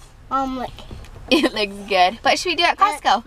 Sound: laughs

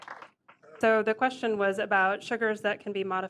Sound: applause

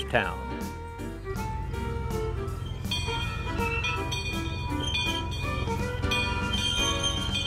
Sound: bell ringing

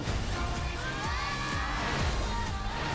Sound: screaming

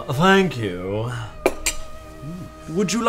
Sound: dishware clinks

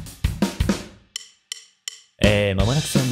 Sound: deep voice

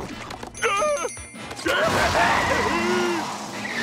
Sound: Patrick grumbling

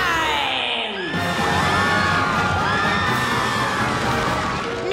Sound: screaming

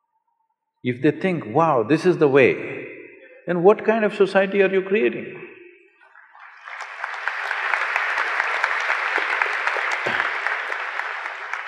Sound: applause

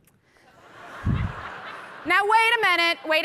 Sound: audience laughing

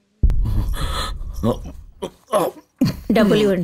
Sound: groans

